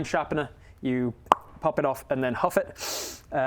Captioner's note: pop